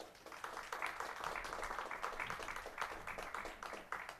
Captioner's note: applause